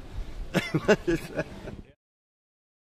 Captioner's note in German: lachend ab